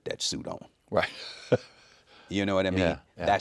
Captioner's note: chuckling